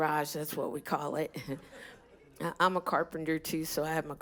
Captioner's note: laughter